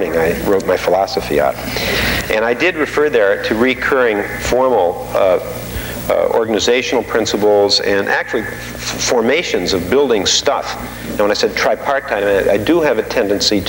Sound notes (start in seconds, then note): none